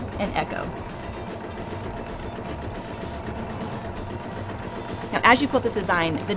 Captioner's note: sewing machine hums